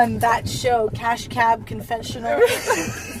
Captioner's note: laughs